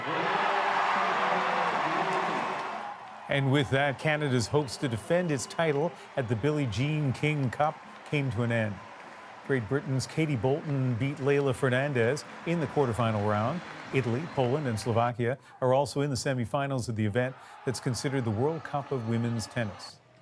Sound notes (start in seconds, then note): 3.8 applause